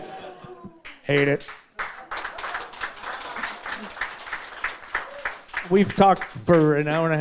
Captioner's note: audience members clapping